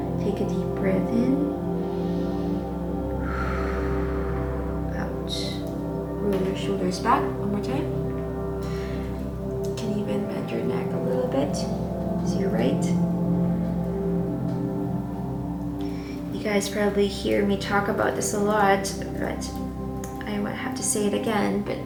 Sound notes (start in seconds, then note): 1.7 inhaling; 3.2 exhaling